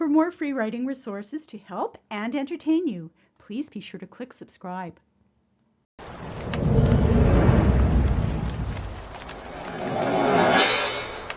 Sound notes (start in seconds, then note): 6.0 rain and thunder